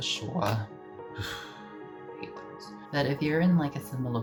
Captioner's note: sigh